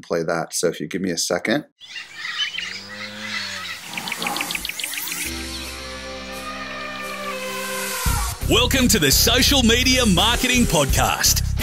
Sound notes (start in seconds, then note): 1.8 jungle cacophony; 5.2 elephant trumpeting